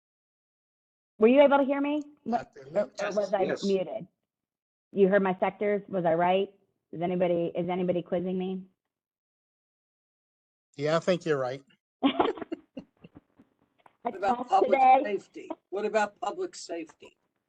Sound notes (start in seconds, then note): 12.0 laughter